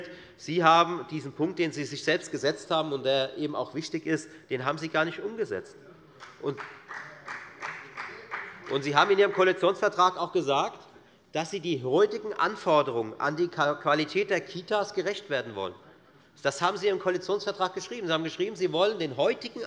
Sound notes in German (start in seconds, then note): 6.2 Beifall der Abg